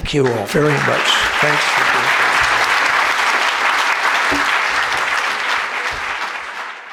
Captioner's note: audience applauding